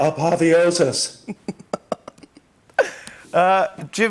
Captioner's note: laughs